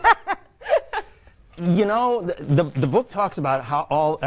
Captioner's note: both hosts laughing